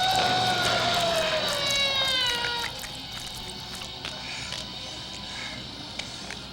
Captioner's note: Jacob howls; flesh squishing; electricity whirring